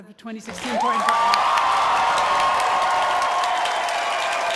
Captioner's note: cheers and applause